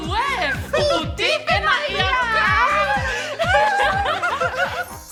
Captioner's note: all laugh